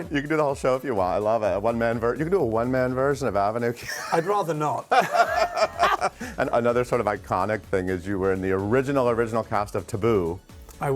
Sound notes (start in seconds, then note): 3.8 both laughing